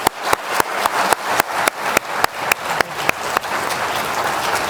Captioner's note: clapping; audience cheering